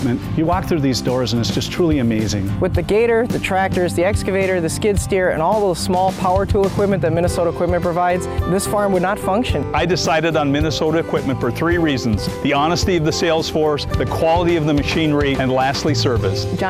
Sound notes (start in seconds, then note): none